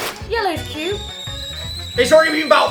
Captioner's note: whistle sound effect